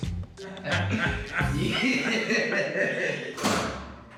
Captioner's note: laughing